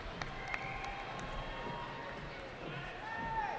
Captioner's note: cheering